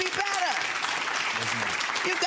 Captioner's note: crowd clapping